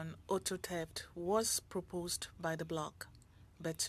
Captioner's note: speaking French